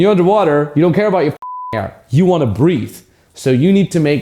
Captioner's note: beep